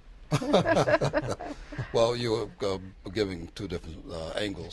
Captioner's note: laughter